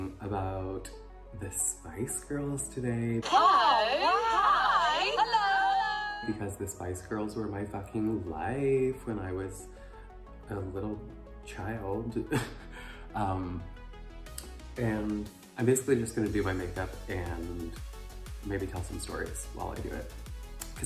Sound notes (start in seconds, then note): 3.2 overlapping voices saying hi